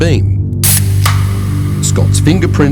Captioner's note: drink fizzing